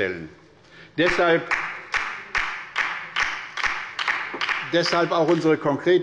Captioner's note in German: Beifall bei der LINKEN